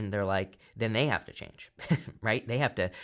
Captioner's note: chuckles